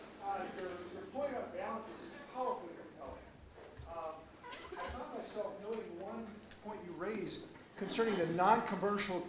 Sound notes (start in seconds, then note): 1.9 man yelling question